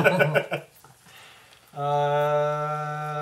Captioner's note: all laugh